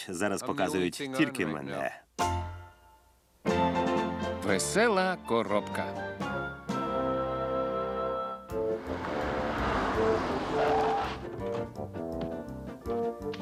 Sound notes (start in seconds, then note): 8.5 car approaching; 10.5 tires screeching